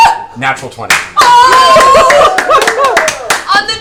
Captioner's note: claps; cheers